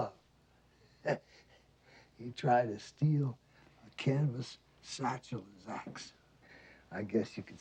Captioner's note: laughs